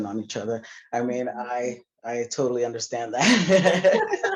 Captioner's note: laughter